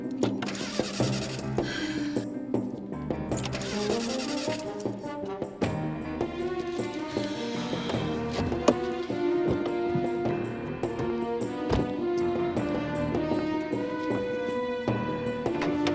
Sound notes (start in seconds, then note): 1.3 sighs